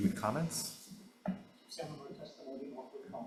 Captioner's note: speaking faintly